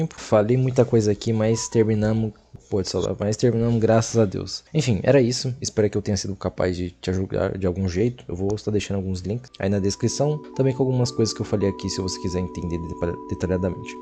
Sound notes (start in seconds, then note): 1.4 fri**ng phone